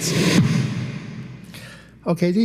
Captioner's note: air whooshing